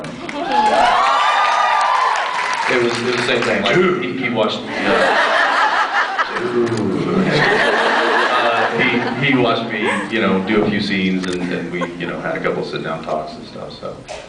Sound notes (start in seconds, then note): 0.1 cheers, applauds; 4.8 laughs